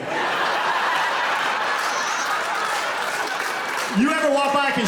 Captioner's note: laughter